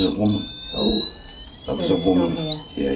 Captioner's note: REM pod beeping